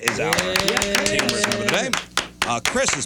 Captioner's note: clapping